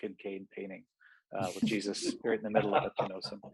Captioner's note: laughs